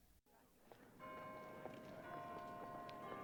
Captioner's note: church bell tolling